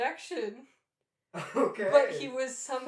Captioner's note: laughing